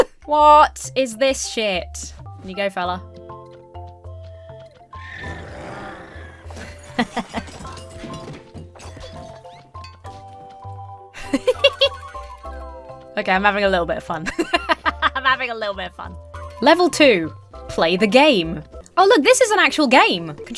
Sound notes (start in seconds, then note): 0.0 laughs; 5.0 alpaca screeches; 5.0 lions roar; 6.6 chuckles; 11.2 giggles; 14.2 laughs